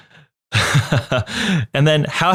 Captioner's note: laughing